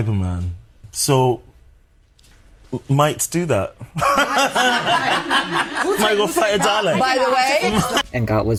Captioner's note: laughing